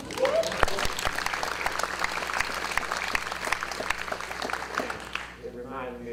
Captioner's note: audience cheers and applause